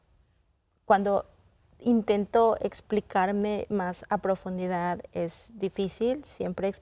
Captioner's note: continues speaking in Spanish